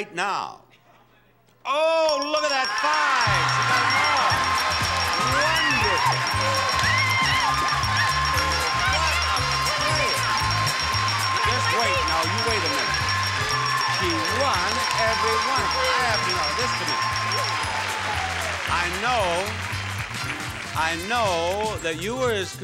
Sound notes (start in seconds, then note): 3.8 audience applauds; 6.7 screaming